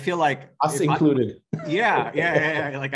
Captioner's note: laughing